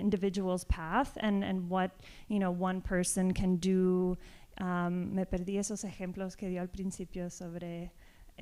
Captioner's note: speaking spanish